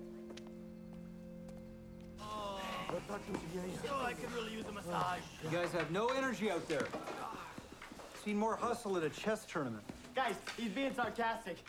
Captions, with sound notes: (groaning) - Oh, l could really use a massage. - You guys had no energy out there. l've seen more hustle at a chess tournament. - Guys, he's being sarcastic!